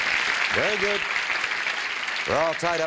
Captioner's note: applause